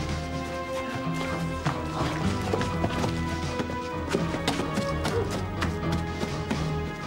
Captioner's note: dramatic orchestral music; footsteps thudding